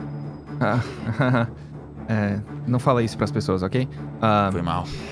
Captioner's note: laughs